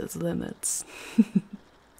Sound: laughing softly, she holds a hand out to you

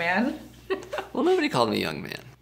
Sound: laughing

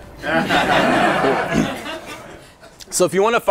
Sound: laughter; beat stops

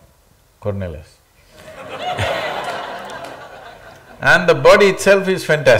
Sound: laughter

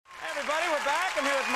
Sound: audience cheering

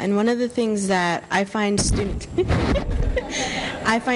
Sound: laughter

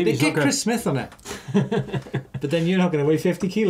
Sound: laughs

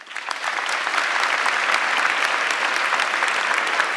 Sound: audience clapping

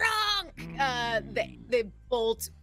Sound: character growls

